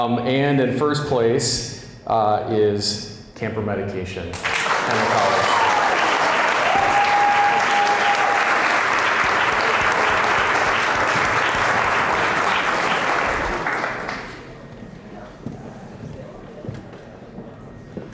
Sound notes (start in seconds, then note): 4.4 applause, cheering